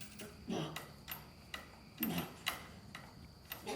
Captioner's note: groaning